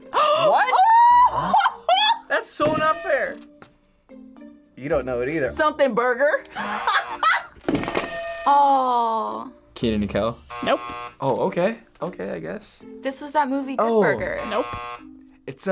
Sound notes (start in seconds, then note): 2.7 bell rings; 6.5 laughs; 7.8 bells ring